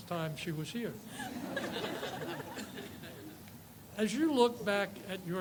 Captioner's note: audience laughs